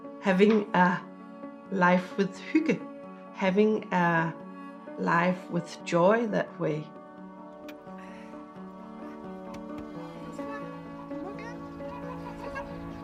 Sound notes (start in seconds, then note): 7.0 soft dramatic music; 7.0 speaks in Danish